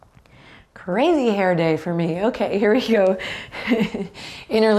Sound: chuckles

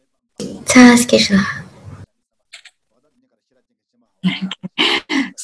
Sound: speaks in foreign language

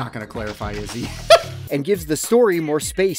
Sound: obnoxious laugh

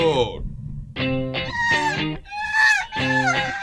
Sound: feminine shrilling

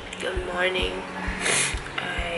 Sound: sniffs

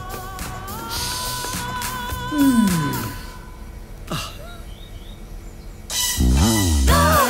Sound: sighs; sniffs; tinny upbeat music

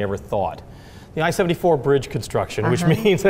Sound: laughs

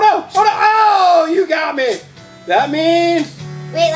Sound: exclaims

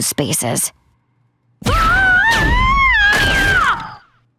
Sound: screaming

